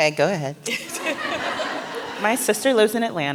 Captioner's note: laughter